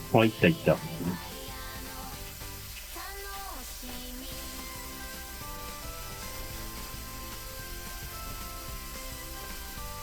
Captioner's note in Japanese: ポンプの音